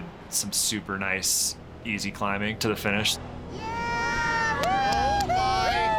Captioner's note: crowd cheering